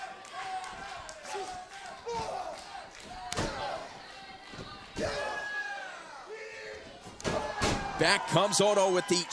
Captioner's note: crowd chatter